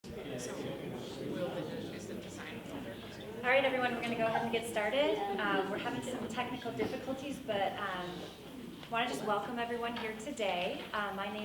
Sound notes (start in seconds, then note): 0.2 chattering